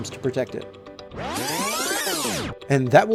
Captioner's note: videotape trilling